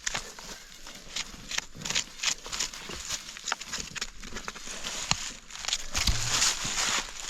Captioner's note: brush rustling; leaves crunching